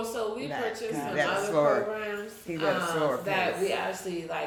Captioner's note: chattering; chattering